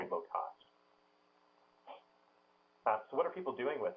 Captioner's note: pause